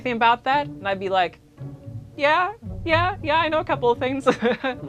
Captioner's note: laughs